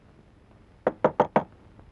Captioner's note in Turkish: Kapı çalma sesi